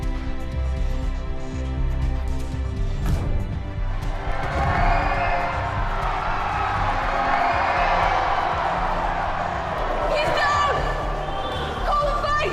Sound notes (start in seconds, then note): 3.0 kick thumps; 4.3 audience applauding